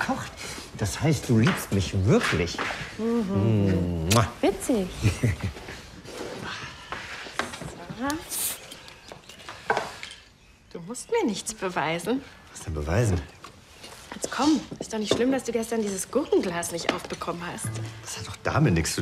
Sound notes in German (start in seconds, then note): 4.0 Sie küssen sich hörbar; 4.9 kichert; 6.2 Seufzen; 8.0 Zischen